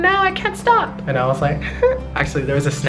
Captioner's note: chuckles